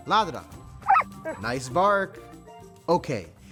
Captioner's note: News Hound barking